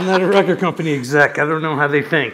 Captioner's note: laughter